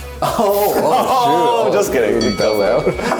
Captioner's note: both laugh